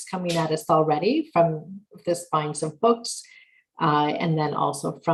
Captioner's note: murmurs